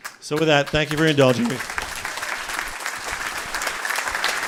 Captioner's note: applause